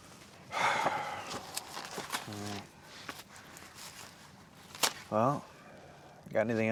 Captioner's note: sighs